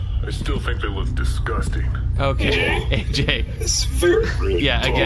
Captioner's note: gags